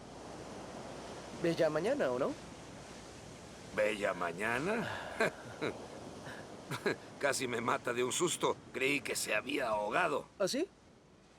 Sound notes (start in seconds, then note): 4.7 laughing